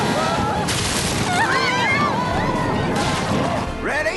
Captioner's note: all screaming